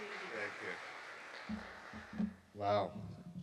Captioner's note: audience applauding